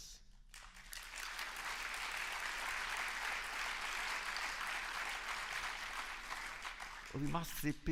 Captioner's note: applause